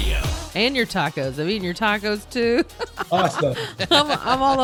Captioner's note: laughing; laughs